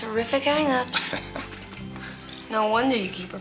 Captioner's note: Joe chuckles